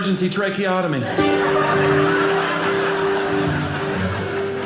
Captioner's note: audience laughing; guitar playing